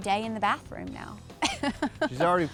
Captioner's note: laughs